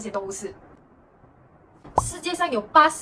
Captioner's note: A moment of silence